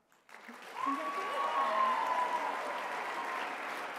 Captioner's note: applause